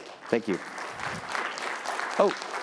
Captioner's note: applause